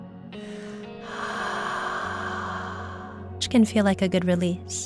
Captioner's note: exhaling